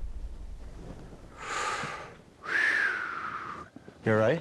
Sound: sighing

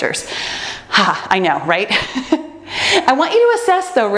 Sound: laughs

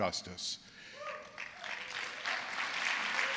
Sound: applause

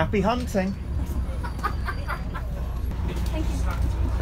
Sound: laughter

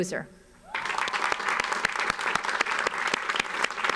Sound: audience applauds

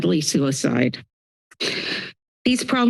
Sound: inhales

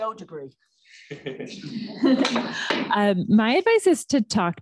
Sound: laughter

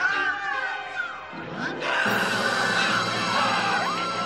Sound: soldiers screaming

